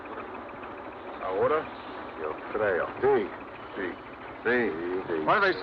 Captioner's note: miners speaking Spanish